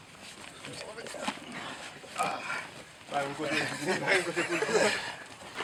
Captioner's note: guys grunting, laughing